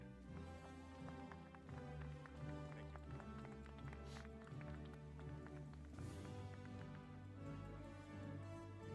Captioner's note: applause